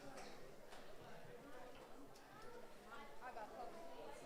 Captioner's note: crowd murmuring